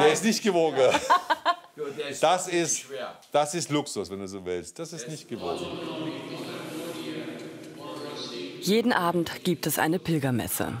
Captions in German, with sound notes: Der ist nicht gewogen. (Lachen) Das ist Luxus, wenn du so willst. - Der ist nicht so schwer. (Spanisches Gebet) Jeden Abend gibt es eine Pilgermesse.